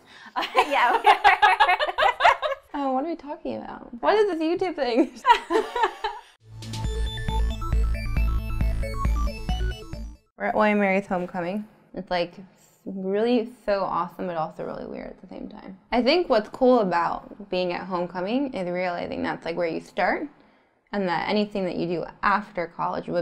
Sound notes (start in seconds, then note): 0.3 laughter; 5.2 laughs; 6.4 electronic music